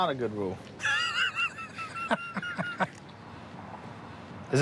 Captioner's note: laughter